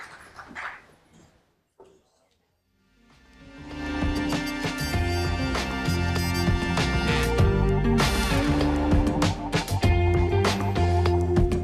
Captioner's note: applause